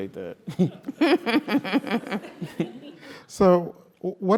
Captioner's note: laugh